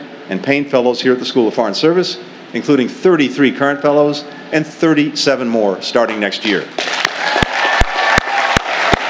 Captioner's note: applause